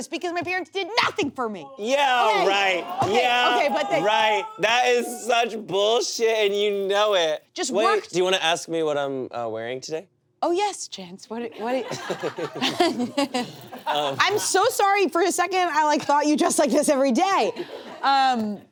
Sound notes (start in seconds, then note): 11.7 everyone laughs